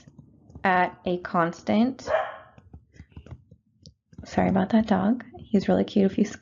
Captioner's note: dog barking